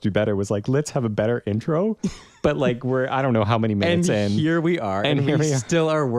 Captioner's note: laugh